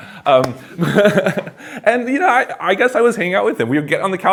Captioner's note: laughs